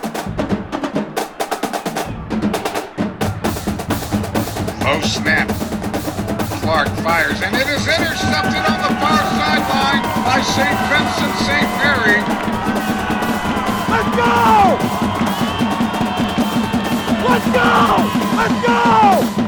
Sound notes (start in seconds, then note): 0.0 drums banging; 5.1 radio Announcer; 12.5 cheering